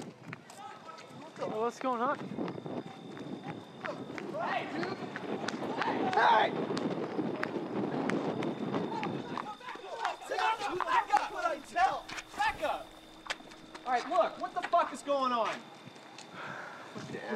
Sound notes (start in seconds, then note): 2.8 people yelling in distance